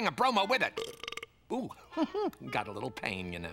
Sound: belches; laughs

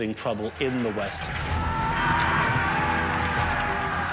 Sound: men shouting

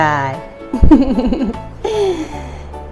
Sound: laughs

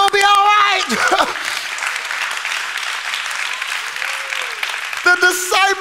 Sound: congregation applauding

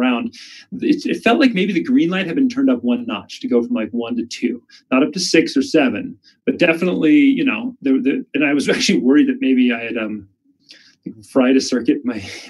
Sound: chuckles

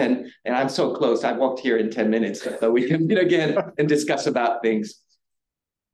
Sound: audience chuckling

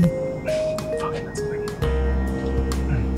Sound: <i>cell phone buzzes</i>; whispers

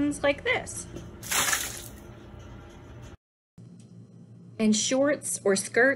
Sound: some liquid is poured

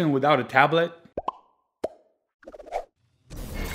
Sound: popping

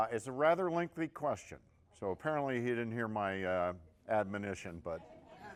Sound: laughter

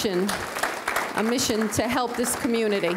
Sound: audience clapping

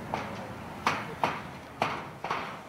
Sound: hammering noise

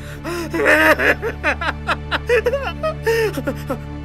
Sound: cries

